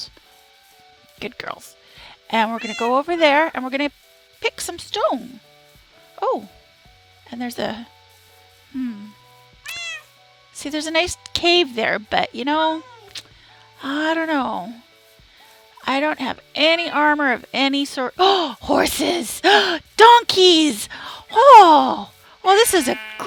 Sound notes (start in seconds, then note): 17.3 dramtaic suprised gasp; 20.9 gasp